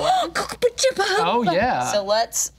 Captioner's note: spluttering and mumbling